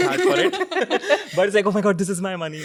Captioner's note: everyone laughing